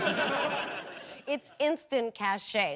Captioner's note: audience laughing